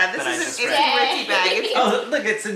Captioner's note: laughs